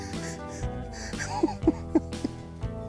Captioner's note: laughs